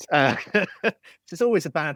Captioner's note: laughs